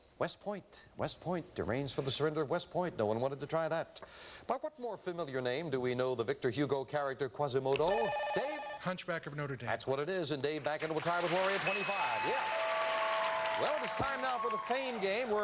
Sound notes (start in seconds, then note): 7.9 buzzer; 11.6 doorbell